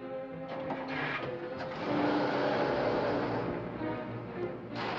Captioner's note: car starts & accelerates; gears grind